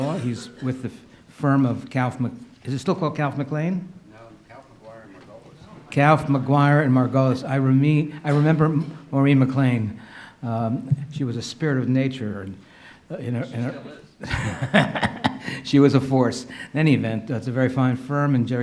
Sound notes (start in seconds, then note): 14.2 laughs